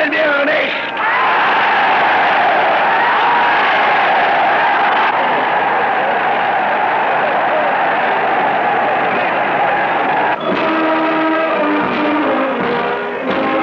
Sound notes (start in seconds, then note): 0.0 German speech; 0.9 cheers